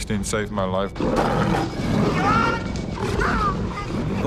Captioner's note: growling